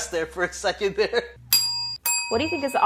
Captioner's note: ding